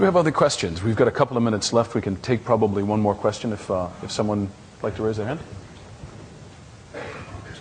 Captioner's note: laughter